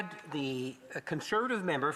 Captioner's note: speaking French